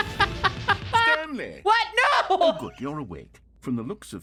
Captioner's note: music stops; keeps laughing; laughs